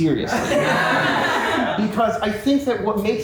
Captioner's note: cast and crew laugh